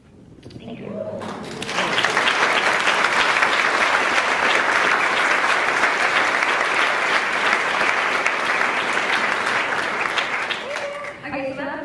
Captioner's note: cheers; applauds